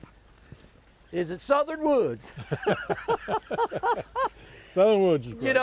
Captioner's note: laughs